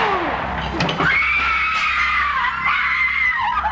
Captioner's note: screaming